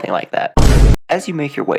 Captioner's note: Vine Boom